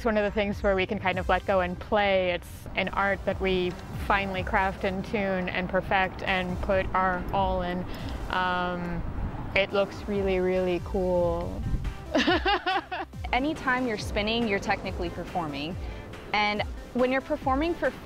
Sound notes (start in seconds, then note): 12.1 laughs